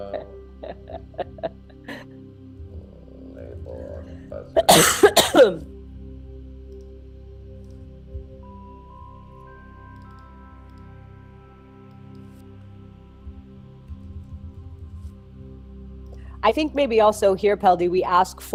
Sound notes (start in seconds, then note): 4.6 coughs; 7.5 gentle music; 9.9 keyboard clicking